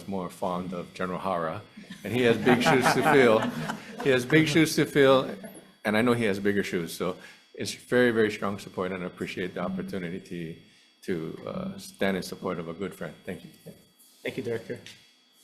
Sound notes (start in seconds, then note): 3.9 all chuckle